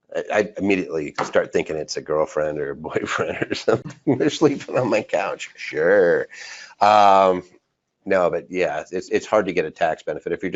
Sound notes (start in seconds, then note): 2.8 laughs